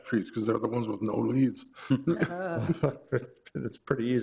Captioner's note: laughs